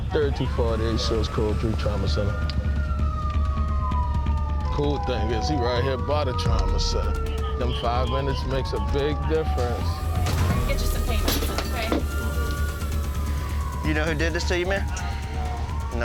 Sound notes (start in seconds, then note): 2.8 siren wailing